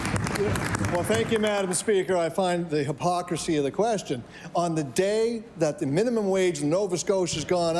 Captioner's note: cheering and Applause